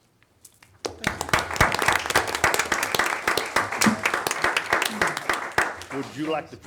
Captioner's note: audience applauding